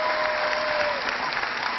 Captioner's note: cheering